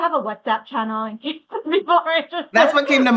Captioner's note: laughs